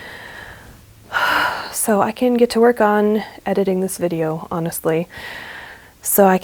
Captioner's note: calm-down sigh